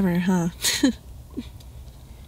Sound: chuckles

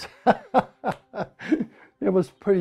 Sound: lacht

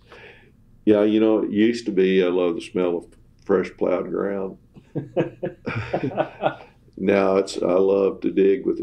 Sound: laughter

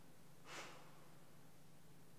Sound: exasperated sigh

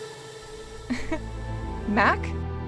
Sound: laughing

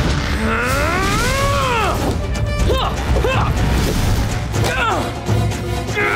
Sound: grunting

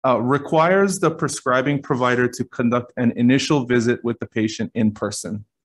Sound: none

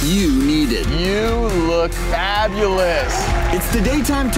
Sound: crowd applauding

